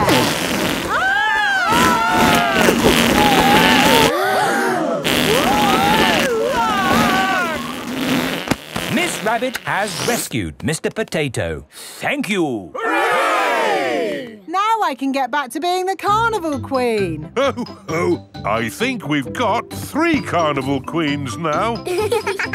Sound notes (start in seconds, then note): 0.8 both screaming; 4.6 crowd gasps; 6.3 screaming